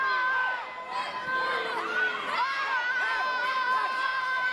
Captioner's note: kids yelling